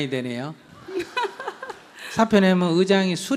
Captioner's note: questioner Laughter